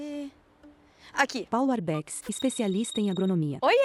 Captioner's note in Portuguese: Toque de celular